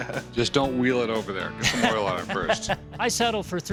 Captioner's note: laughs